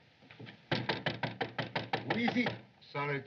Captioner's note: knocking Continues